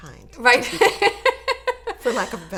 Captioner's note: laughs